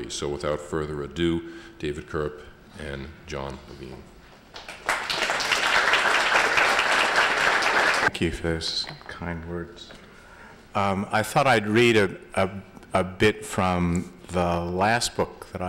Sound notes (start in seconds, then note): 4.5 applause